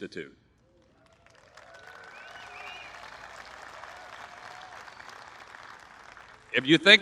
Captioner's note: applause